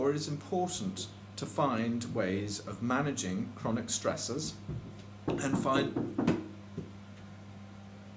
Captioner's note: knock on the door